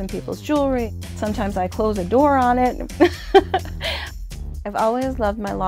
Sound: laughs

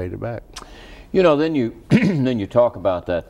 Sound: clears throat

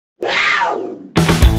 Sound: growling

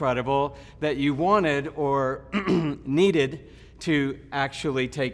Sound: clears throat

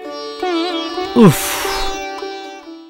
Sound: sighs

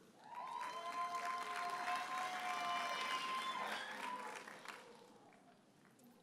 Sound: audience cheers and applauds

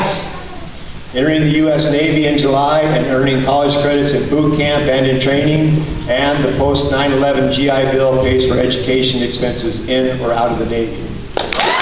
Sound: cheering

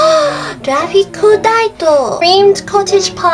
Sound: gasp!

